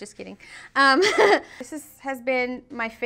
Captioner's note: laughing